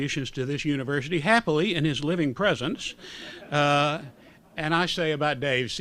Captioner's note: laughter